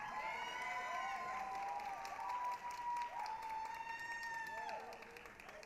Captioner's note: applause, cheering